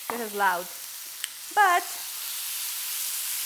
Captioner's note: sizzling